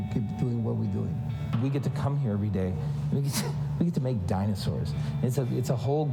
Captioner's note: laughs